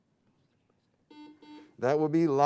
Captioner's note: buzzing sound